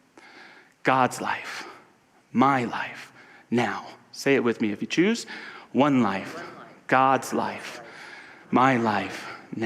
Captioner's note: none